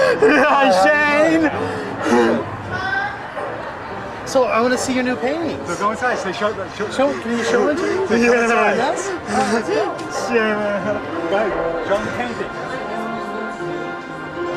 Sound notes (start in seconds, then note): 9.6 laughing; 11.3 soft peaceful music